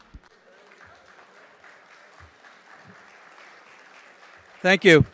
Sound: audience applauding

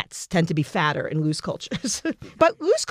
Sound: laugh

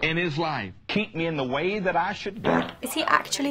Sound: fart

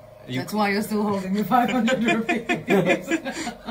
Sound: laughter

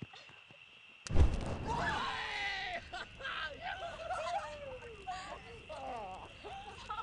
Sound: shouting; cheering

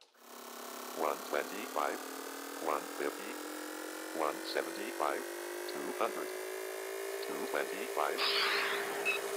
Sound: car building up speed

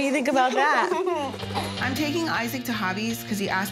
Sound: laughing

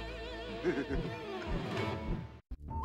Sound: laughing

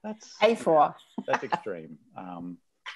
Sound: laughing

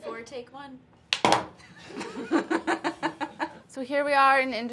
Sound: laughs

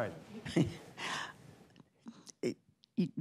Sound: laughs

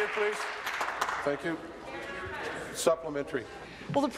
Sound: some Applause

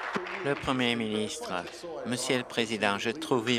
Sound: applause

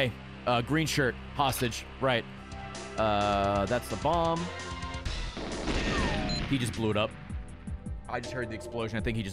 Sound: gunshots

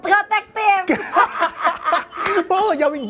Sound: laughter

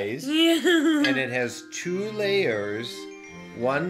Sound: laughing

